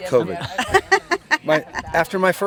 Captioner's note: laughs